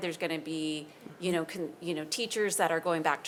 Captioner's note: none